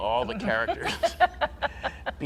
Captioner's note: laughing